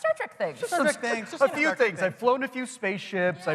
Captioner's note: laughter